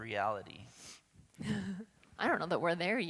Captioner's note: laughs